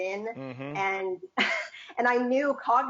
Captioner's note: laughs